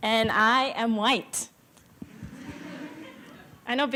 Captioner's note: laughter